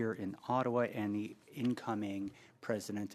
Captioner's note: speaking French